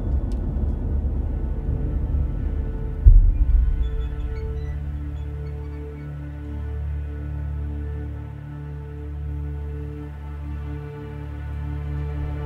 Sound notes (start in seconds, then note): 2.8 metals creaking; 5.6 tense music